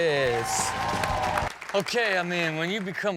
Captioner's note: audience cheering and clapping